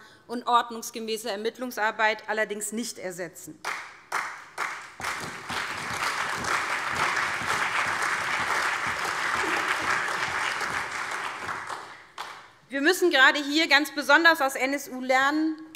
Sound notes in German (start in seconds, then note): 3.6 Beifall CDU, BÜNDNIS 90/DIE GRÜNEN, SPD, vereinzelt AfD und DIE LINKE